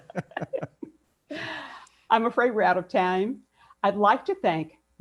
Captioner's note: laughs